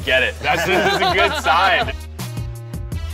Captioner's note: both laugh